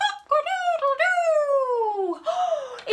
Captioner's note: gasp